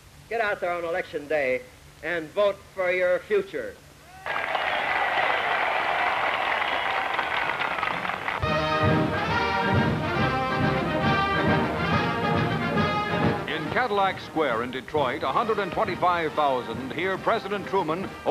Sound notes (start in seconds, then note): 8.3 applause